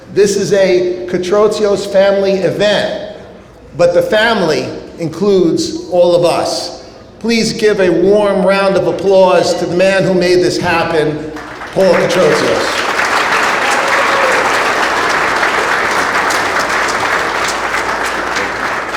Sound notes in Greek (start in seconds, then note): 12.6 το κοινό χειροκροτεί